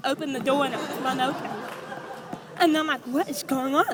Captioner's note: audience laughs